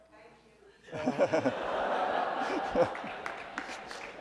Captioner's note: laughing